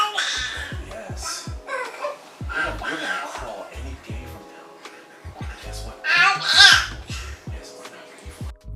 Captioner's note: babbling